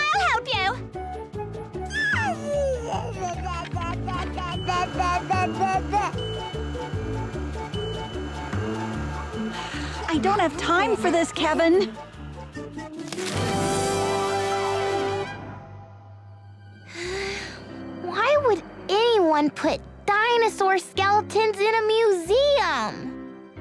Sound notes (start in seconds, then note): 8.1 burbling; 14.8 sighs